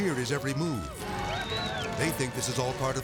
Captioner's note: friends cheering